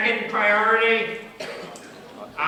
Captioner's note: background comments